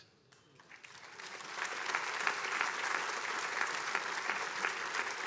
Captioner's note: attendees applauding